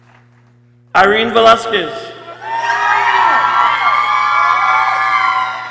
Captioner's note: people cheering